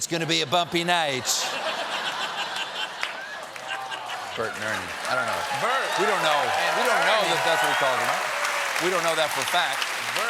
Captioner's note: laughter; cheers and applause